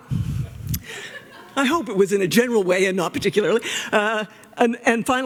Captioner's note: laughter